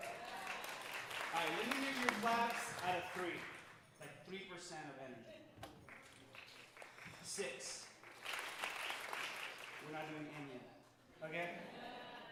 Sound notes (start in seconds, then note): 0.0 audience applauding; 5.6 audience softly clapping